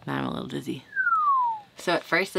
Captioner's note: whistles